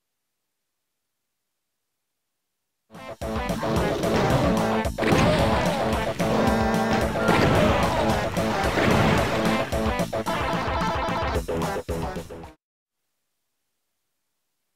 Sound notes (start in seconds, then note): 2.9 DOOM video game sound